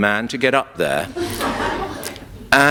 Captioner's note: laughter